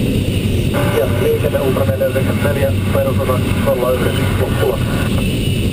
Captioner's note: radio